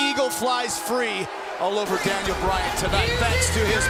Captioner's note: bell ringing